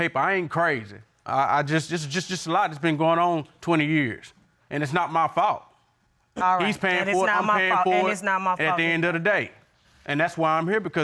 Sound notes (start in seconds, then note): 2.0 stuttering